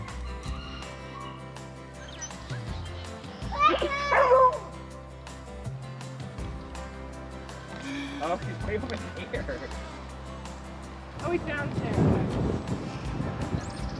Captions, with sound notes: (dog bark) - Oh he's nibblin' ear!